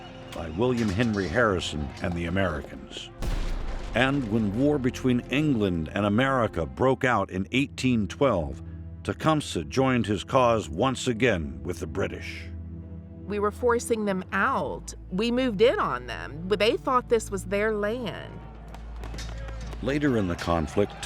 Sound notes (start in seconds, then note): 18.6 gunshots banging; 19.0 soldiers shouting